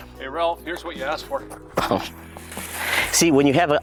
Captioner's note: chuckles